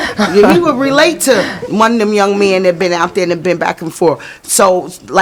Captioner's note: laughing